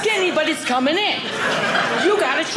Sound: audience laughing

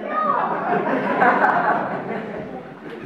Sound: audience laughs

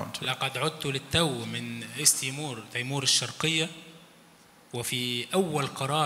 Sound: speaks in foreign language

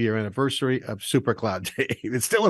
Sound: laughing

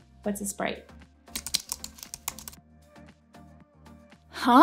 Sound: keyboard clicking

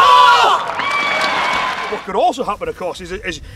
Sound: audience applause

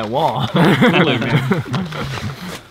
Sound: all laugh

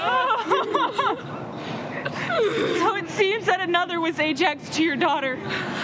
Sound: crying

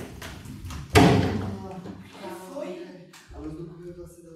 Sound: door knock

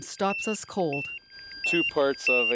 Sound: beeping sounds

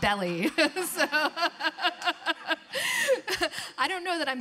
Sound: laughing

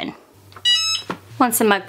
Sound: mug press beeping

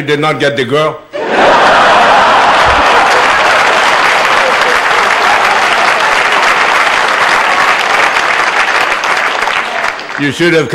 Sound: laughter and applause

